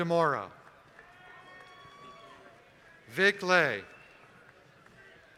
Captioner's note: applause